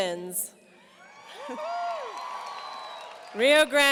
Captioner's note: audience cheers